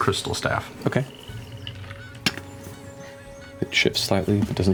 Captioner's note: tapping